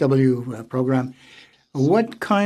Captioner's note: speaking French